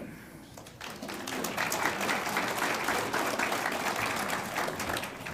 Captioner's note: audience applauds